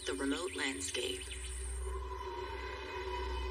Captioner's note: wind whistling